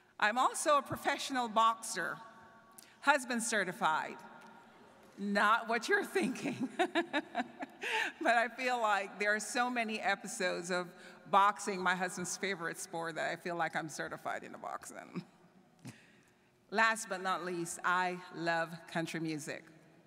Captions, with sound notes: I'm also a professional boxer, husband certified, not what you're thinking, (laughs) but I feel like there are so many episodes of boxing, my husband's favorite sport, that I feel like I'm certified in a boxing. Last but not least, I love country music.